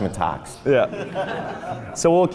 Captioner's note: laughs